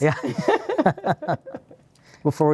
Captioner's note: both laughing